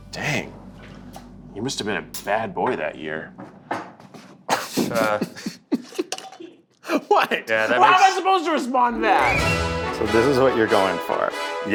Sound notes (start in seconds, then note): 4.5 laughing